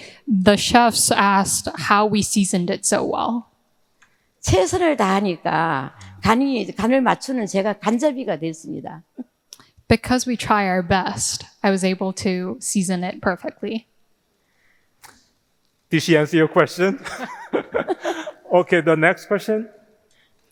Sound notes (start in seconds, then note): 4.5 speaking in foreign language; 17.0 laughing